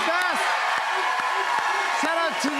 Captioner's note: cheers and applause